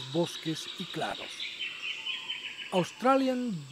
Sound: birds chirps and calls

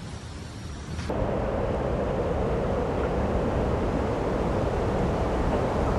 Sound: wind roaring

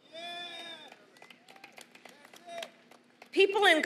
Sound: applause

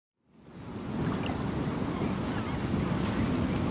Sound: waves crashing

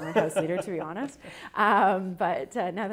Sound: laughs

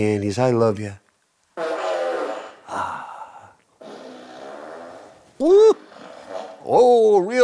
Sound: fart Machine Goes Off Twice

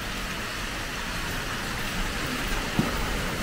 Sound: fountain babbles

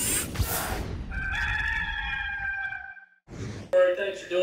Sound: rooster crowing

